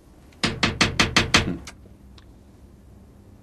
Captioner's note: tapping on glass